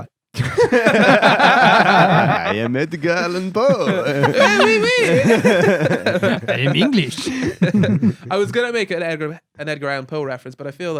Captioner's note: laughing